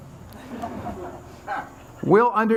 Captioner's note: audience laughs